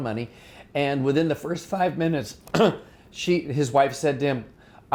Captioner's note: clears throat